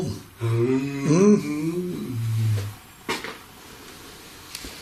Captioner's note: humming